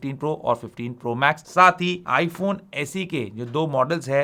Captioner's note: speaking in Hindi